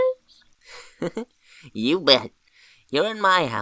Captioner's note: chuckles